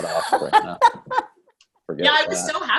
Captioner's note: laugh